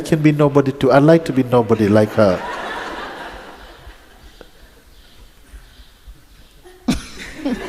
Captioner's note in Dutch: gelach